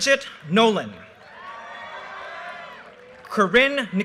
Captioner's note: audience cheers and applause